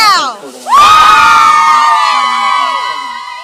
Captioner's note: cheers